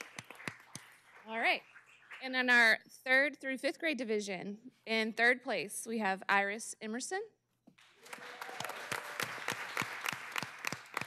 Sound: cheers and applause

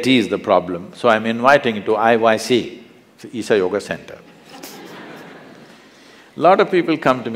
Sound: laughter

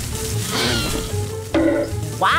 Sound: growling; thunk

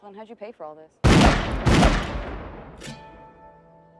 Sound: gunshots

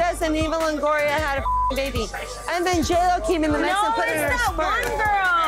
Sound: beep

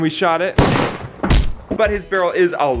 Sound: gunshot blast and thud

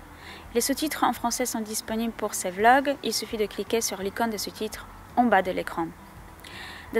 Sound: French speaking

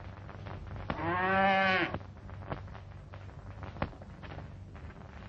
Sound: mooing

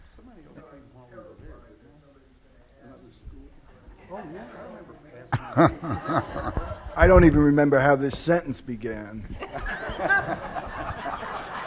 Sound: laughter

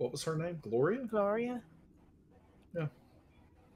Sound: none

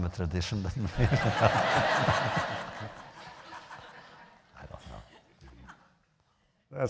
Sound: laughter

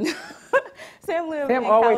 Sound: laughs

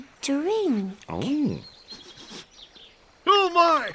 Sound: chuckles

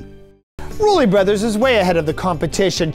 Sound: voiceover

